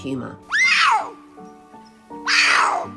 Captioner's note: PUMA cries